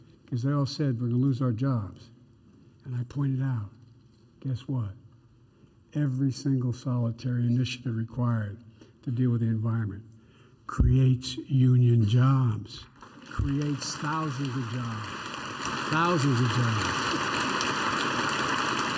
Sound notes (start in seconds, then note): 12.8 applause